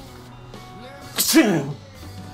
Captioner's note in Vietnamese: hắt xì